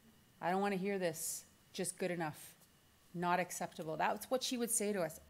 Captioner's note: none